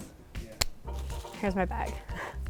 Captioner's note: pat; click